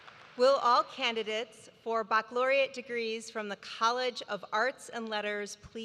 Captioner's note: applause